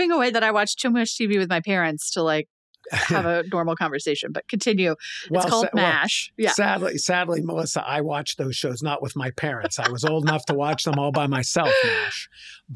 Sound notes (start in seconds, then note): 9.3 laughing